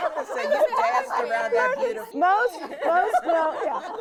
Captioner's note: laughing